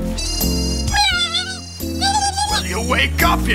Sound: mouse yelling

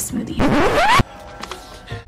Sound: record scratch

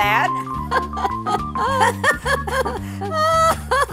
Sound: granny laughing

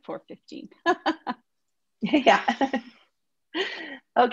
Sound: laughing

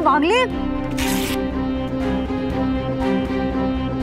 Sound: tears paper

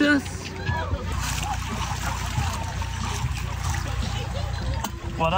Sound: water swishing

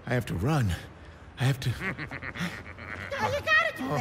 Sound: chuckles

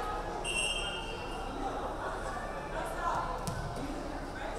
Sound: referee whistling

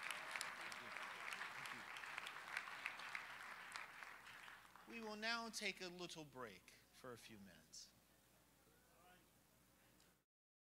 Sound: applause

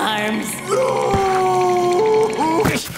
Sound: crying

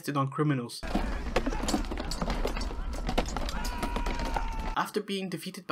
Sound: battle noises

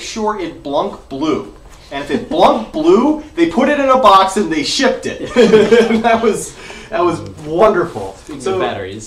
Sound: laughter

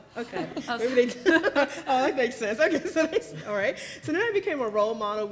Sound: laughs

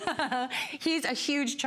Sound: laughter

